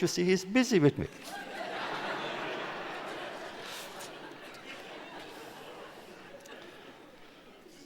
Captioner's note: laughter